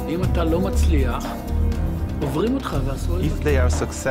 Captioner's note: speaking in foreign language